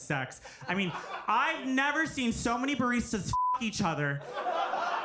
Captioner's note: beep